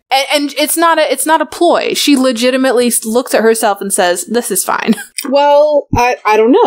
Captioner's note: laughs